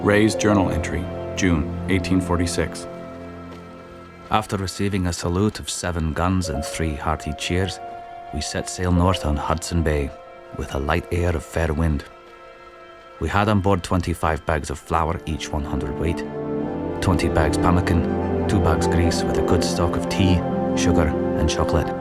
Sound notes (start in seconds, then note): 18.2 speaking Inuit